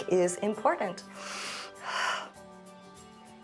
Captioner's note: inhales and exhales